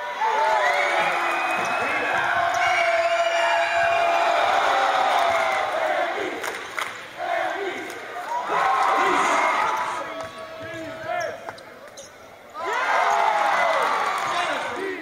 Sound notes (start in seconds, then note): 0.0 cheers; 4.2 chant; 7.1 cheers; 12.5 cheers